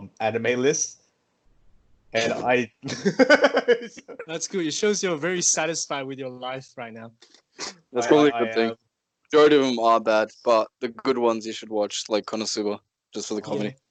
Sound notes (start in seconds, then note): 2.8 laughs in shame